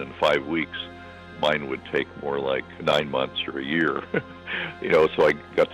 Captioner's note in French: Rire